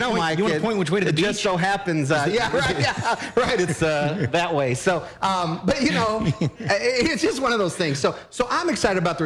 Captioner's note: laughter